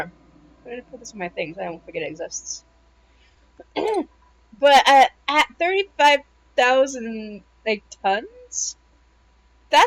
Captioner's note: clears throat